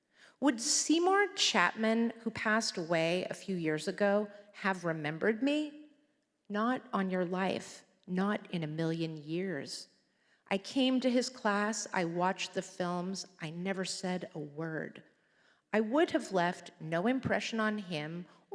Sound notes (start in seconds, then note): none